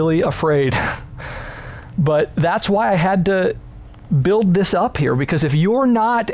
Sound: chuckles

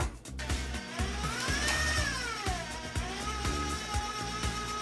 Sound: mixer whirring

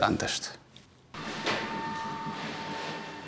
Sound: clatter, whirr

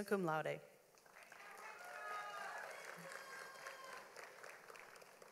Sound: audience applauds

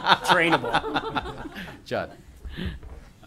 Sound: laughter

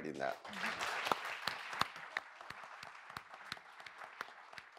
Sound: audience applauds

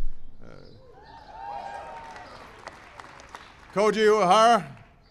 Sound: applause

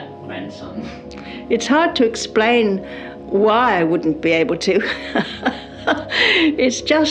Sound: laughs

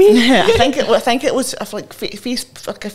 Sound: chuckles

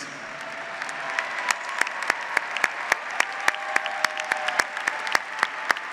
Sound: audience applauds; graduates cheer

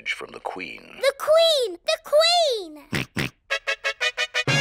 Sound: snorts; trumpet fanfare on tv

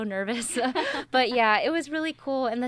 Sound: laughs

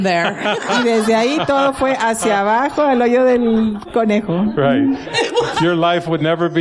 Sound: laughter

